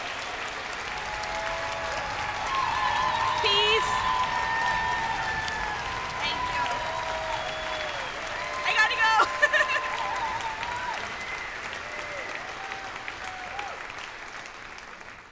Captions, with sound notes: Peace. Thank you. I gotta go! [LAUGHS] [APPLAUSE]